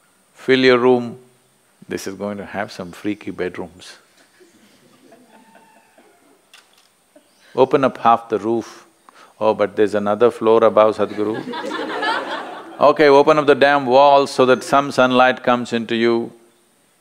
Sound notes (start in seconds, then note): 4.2 A participant laughs; 11.0 laughter